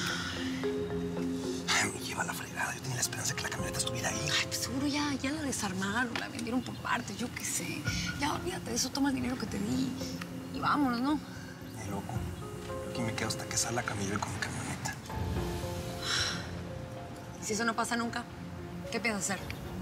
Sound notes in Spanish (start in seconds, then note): 16.0 suspiro